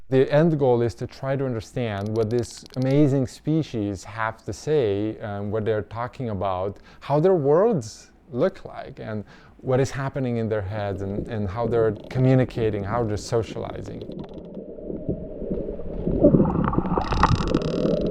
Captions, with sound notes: The end goal is to try to understand what this amazing species have to say and what they're talking about, how their worlds look like, and what is happening in their heads and how they're communicating, how they're socializing. (water burbling) (whale clicking)